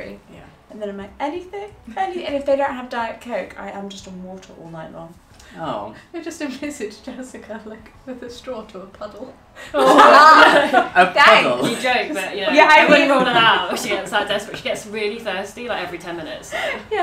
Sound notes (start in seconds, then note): 9.7 laughing